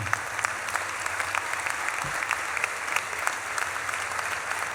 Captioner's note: audience claps and cheers